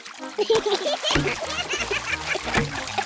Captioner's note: oinks; both giggle